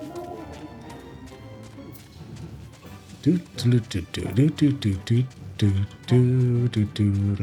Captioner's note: humming